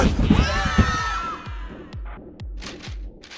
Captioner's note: screaming